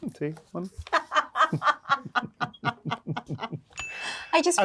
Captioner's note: both laughing; bell dings